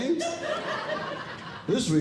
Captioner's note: audience Laughing